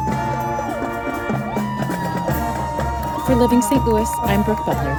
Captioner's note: audience cheering